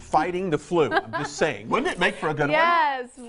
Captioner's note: laughing